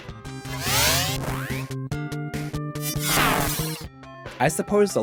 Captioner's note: game audio